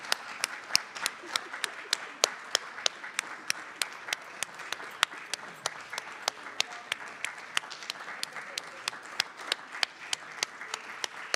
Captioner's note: applause